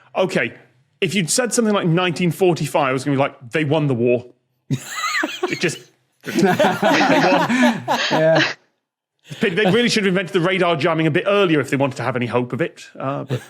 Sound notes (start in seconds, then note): 5.0 wheezes; 6.2 guests laughing